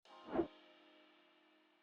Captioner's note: air whooshing